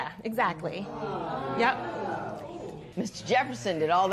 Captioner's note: spectators exclaiming